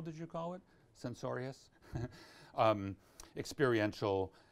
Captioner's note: laughs